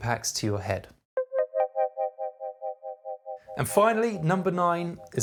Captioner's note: electronic tones